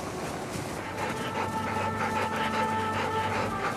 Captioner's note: panting